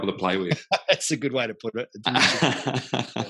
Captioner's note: laughs; laughing